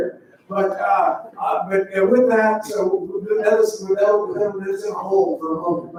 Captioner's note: faintly speaking